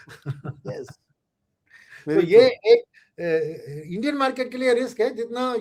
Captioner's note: laughter